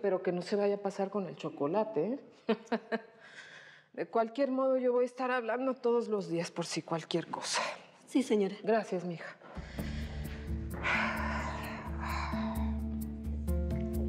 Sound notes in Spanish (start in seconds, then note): 2.4 risas; 9.5 suspiros